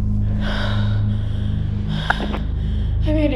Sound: phone line picks up

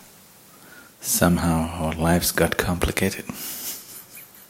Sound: laughs

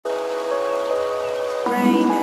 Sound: rain pouring

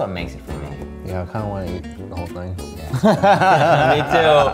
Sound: laughing

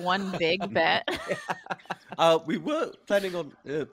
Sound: laughing

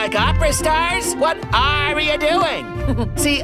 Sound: chuckles

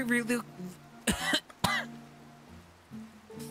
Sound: coughing

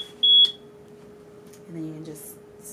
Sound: beeping Noise

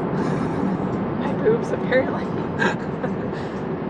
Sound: lauging

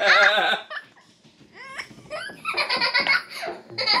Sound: giggling

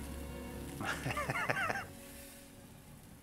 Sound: laughs

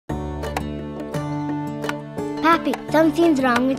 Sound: upbeat strings music; switch clicks

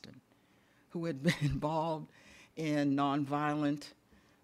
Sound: chuckles

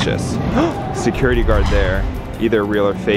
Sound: gasps

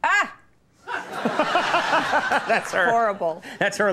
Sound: Conan and audience laughing

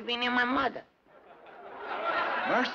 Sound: laughter

